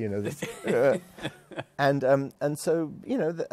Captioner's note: laughs